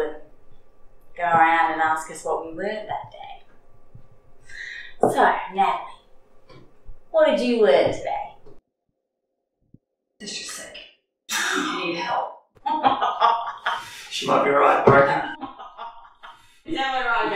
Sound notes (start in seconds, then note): 12.6 Cass laughs